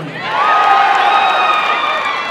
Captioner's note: applause and cheering